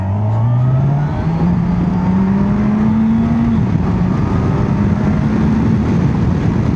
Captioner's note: revving up